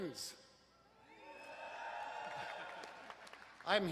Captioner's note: students hollering